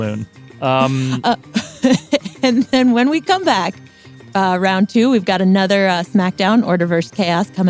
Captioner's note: laughs